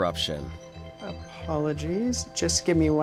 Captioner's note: phone ringing